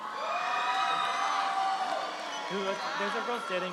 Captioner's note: audience cheers; audience applauds